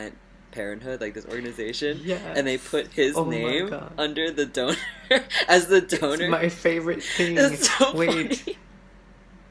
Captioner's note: laughs